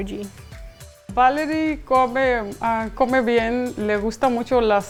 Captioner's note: foreign language